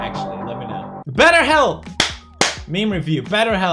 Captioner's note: clap